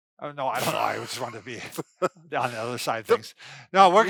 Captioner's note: laughs